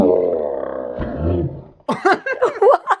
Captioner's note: sound effect of monster